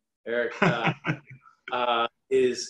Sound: laughs

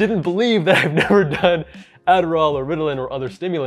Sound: laughs

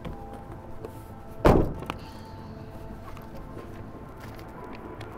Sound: car door slams

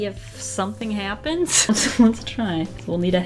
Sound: laughs

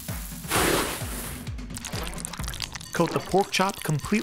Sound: rhythmic drumming; whooshing

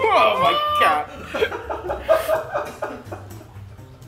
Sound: laugh

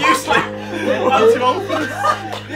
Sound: group laughing

